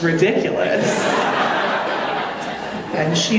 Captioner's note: audience laughing